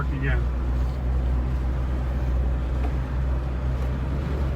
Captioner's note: zumbido del motor del coche